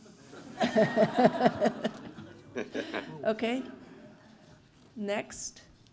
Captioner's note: laugh